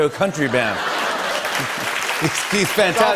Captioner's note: applause